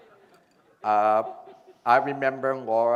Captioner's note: laughter